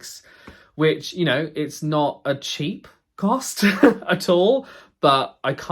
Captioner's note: laughs